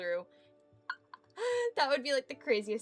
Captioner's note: giggling at scenario idea